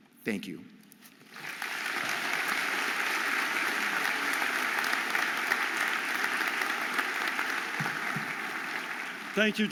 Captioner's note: audience applauding